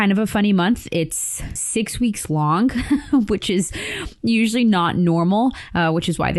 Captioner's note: chuckles